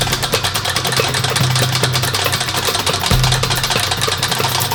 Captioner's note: wrench clicking